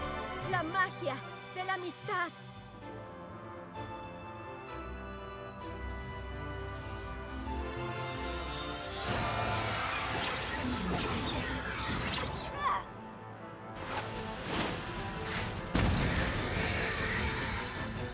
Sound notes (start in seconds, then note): 9.0 zaps; 15.7 explosion